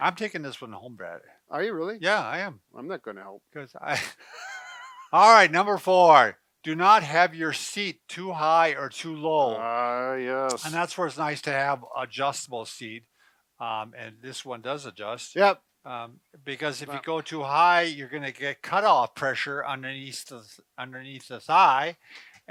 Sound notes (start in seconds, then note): 3.9 laughs